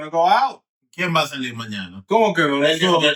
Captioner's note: speaking In Foreign Language